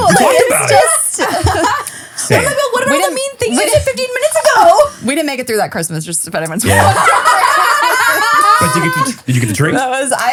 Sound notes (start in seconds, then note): 6.6 laughing